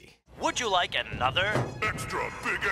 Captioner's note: automated Voice